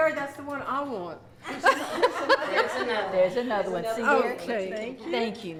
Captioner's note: laughter